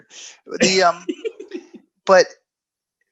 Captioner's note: laughing